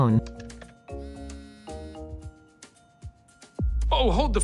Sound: phone buzzes

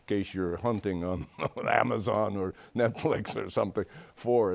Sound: chuckles

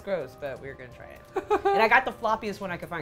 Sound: laughs

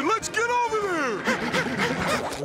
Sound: panting

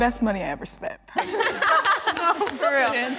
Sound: all laughing

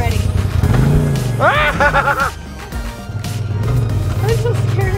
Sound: screams

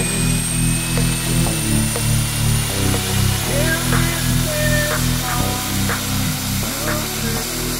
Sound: sound of Merlin III’s engine #2 starting

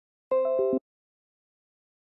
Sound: windows 10 sound

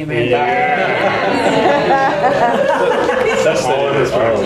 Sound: people laughing

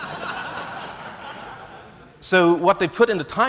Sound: laughs

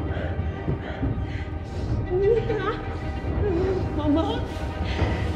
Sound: dramatic orchestral music; thunder rumbling; Vanina straining

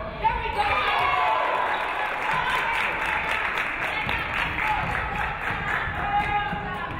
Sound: audience cheering; audience clapping

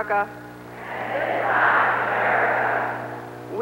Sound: crowd repeats

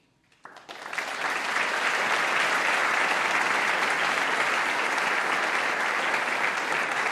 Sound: applause

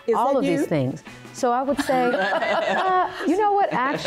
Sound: laughing

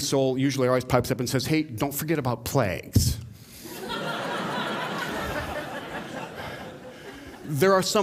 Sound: laughter

